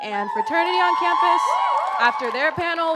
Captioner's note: audience cheers loudly